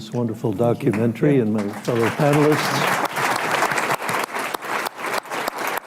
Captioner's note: applause